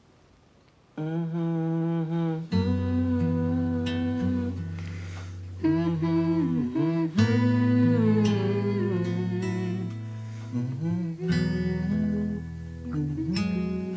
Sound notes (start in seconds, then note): 0.8 E.J. humming brightly; 1.8 bright calm music; 5.2 Tracy humming brightly